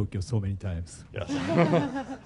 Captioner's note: laughter